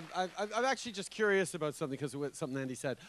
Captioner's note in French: Acclamations